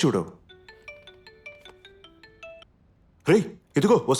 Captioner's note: mobile phone chimes